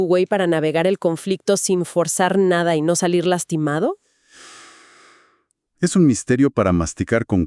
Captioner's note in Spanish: resoplido; suspiro